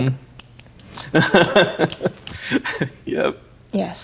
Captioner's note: laughing